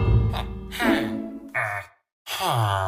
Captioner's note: bell tolls